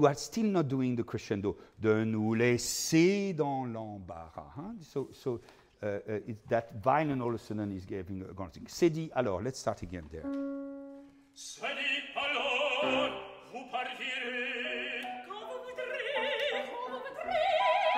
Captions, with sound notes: You are still not doing the crescendo. (speaking in foreign language) Let's start again there. (singing in foreign language)